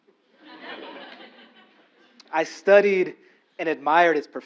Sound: laugh

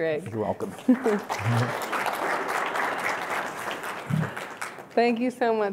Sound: applause

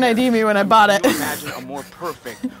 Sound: laughs

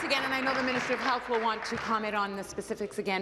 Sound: applause

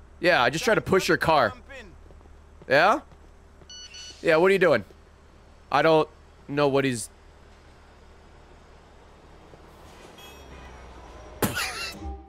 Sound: laughs

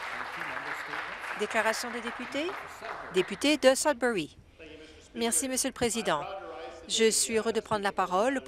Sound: some Applause

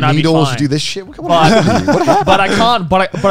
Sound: laughing

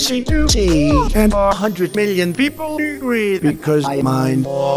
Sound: haha

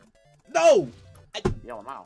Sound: table Slam

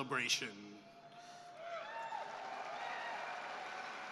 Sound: cheering and applause

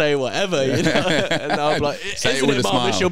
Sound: laughing

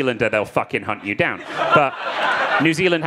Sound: crowd laughing

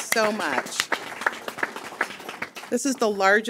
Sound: audience applauding

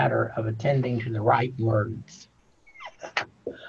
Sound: laughing

